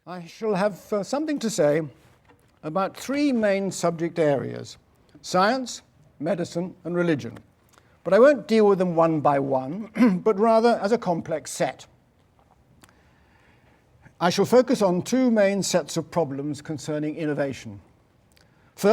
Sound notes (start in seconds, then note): 9.9 cough